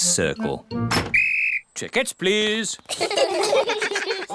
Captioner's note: blows whistle; all laugh